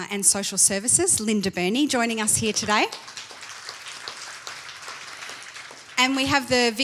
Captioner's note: applause